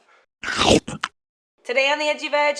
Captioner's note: slurping